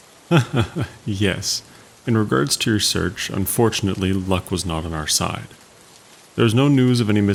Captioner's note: laughs